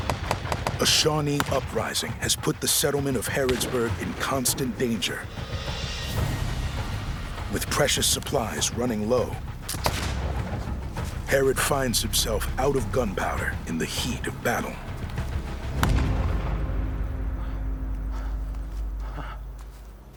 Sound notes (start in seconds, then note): 15.8 gunshot; 17.9 panting